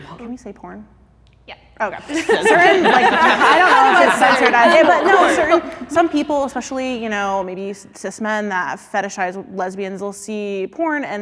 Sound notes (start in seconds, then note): 1.9 contestants laughing